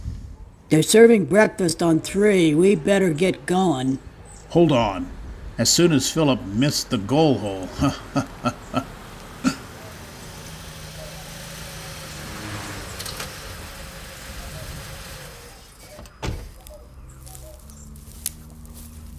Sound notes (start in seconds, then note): 7.4 laughs; 10.0 car approaching and parked; 15.7 door closes